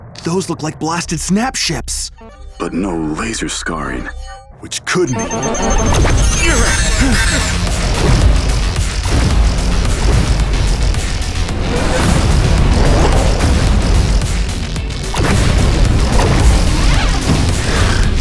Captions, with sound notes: - Those look like blasted Snap Ships. - But no laser scarring, which could mean (rapid beeping) (energetic music)